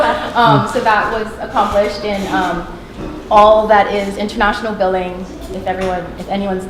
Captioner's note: chuckle